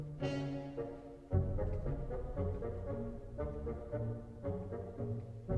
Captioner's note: none